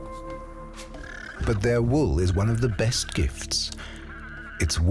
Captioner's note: llama braying